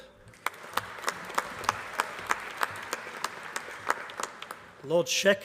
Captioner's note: applause